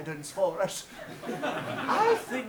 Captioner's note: audience laughs